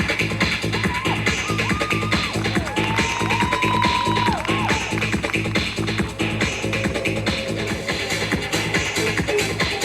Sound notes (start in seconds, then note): 3.5 audience cheering and applauding; 6.3 upbeat music continues